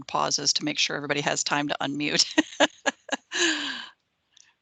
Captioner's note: laughing